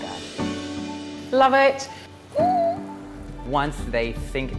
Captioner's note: calm piano music; squeals